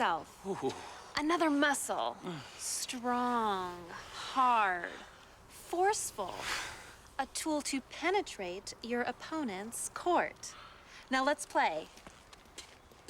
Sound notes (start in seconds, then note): none